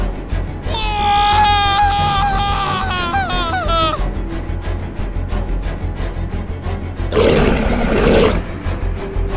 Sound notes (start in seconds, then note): 0.6 screaming; 7.1 snarling Sounds